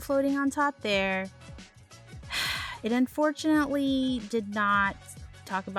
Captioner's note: sigh